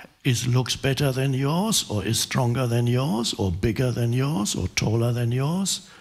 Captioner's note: none